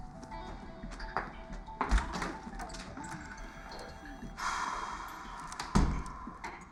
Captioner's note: door opens, closes